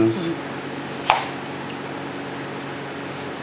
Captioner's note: chopping